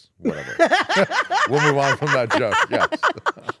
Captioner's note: laugh